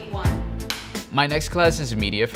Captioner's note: slate board claps